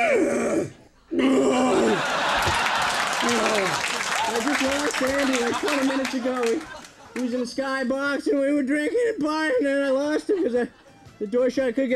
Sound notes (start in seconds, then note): 1.1 Andy groaning; 1.7 audience laughing